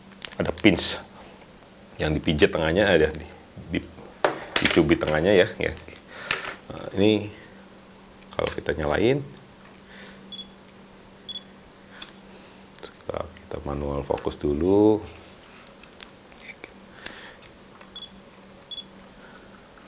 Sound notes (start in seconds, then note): 10.3 beeping; 10.3 another beep; 17.9 beeping